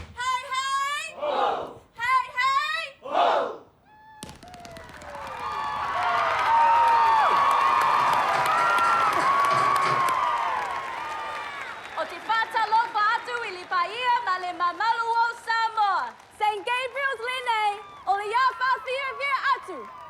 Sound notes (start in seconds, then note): 3.9 distant 'chee-hoo'; 5.8 cheering